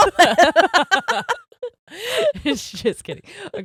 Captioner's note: laughing loudly